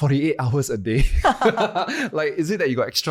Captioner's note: laugh